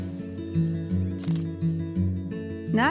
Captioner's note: camera shutter clicks